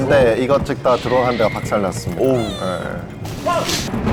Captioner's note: sob